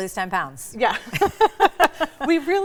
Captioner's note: all laughing